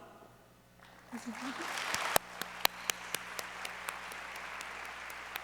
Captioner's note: audience applauds